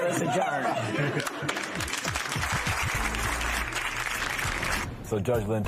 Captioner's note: laughter, applause